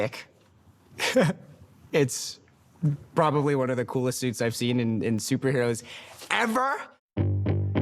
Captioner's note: laughs